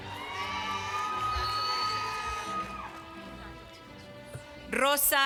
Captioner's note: applause